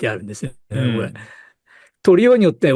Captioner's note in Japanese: 咳払い